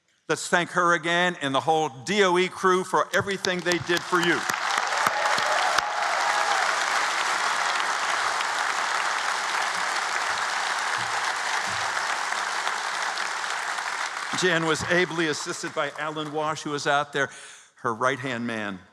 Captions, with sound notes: Let's thank her again and the whole DOE crew for everything they did for you. [ Applause ] Jan was ably assisted by Alan Walsh, who was out there, her right-hand man.